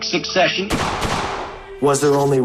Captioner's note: gun shots